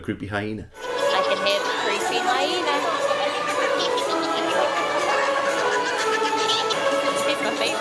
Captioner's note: hyena laughter